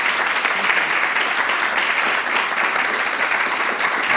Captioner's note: audience applauds